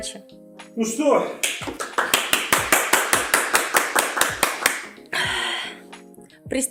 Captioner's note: applause